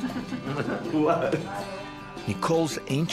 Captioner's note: laughing